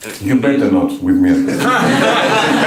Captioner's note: laughter